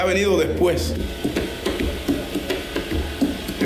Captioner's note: tapping